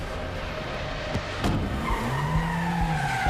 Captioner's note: tires squeal